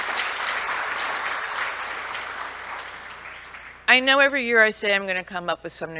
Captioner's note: applause